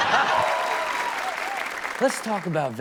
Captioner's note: all laughing; audience cheering and clapping